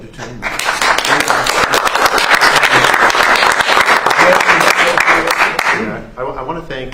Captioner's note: applause